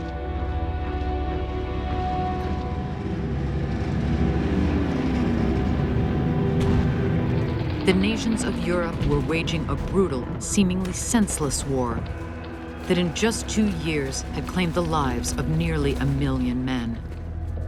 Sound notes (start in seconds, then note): 5.0 planes flying, explosions echoing